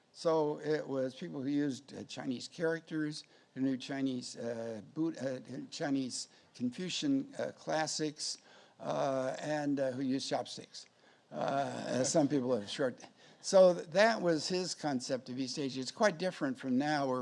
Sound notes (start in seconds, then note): 11.0 audience laughs